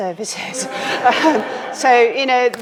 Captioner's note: all chuckling